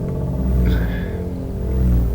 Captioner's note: grunt